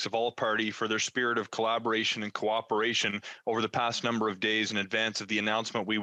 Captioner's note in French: voix de l'interprète